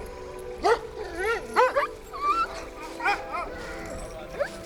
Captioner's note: dogs barking